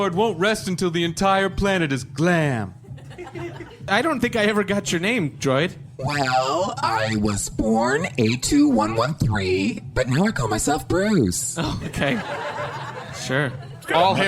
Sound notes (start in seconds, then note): 11.7 audience laughter